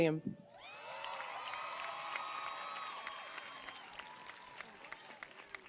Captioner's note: audience cheers and applauds